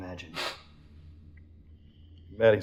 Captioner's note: sniffle